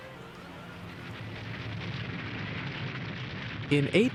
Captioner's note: fire roaring